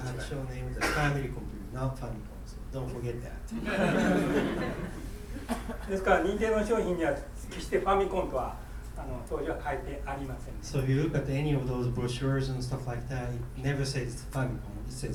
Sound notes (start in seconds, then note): 0.0 coughing; 3.6 laughing; 6.0 speaking in foreign language